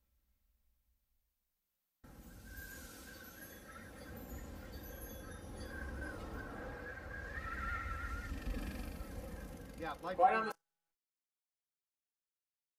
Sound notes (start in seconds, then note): 2.1 winds blowing; 10.7 silence